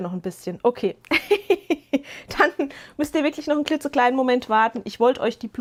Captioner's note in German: gelächter